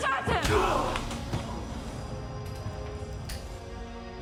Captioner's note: blow striking